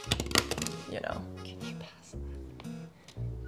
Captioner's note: whispers